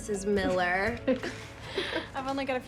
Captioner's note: both chuckling